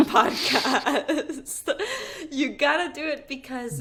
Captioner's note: laughing